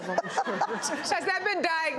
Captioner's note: laughter